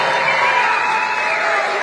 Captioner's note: applause